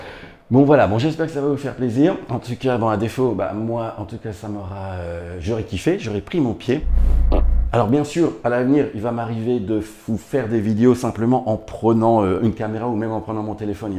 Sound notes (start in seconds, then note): 7.1 fart